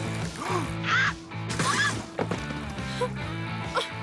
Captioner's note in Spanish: Gritos